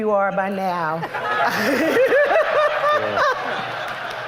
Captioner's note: laughter